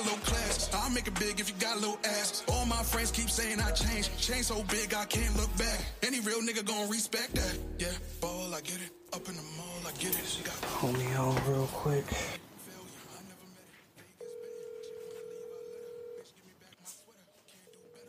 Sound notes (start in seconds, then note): 14.2 phone rings